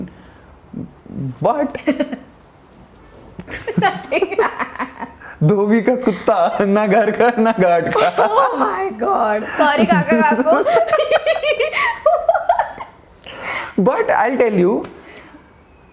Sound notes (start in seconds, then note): 10.5 laughing